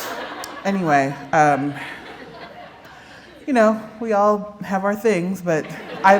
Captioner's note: laughter